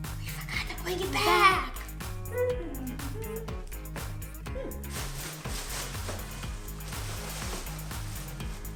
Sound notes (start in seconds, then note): 0.0 girls gasp; 1.8 hums